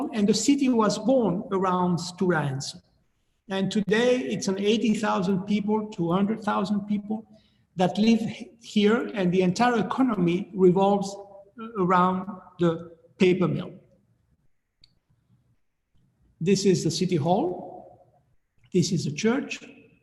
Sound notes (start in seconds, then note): none